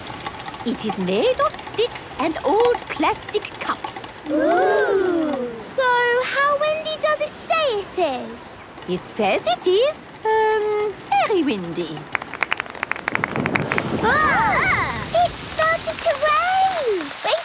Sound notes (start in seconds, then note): 12.5 exclamations; 13.1 thunder